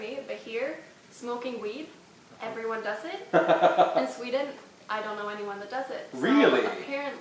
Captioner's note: laughs